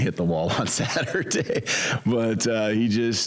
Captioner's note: laughs